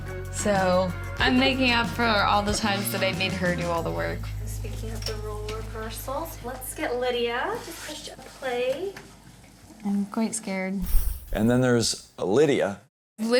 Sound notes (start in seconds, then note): none